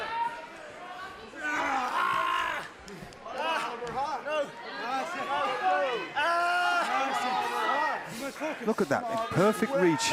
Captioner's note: crowd chatter